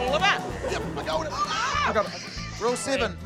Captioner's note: scream